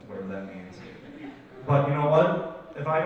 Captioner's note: audience laughs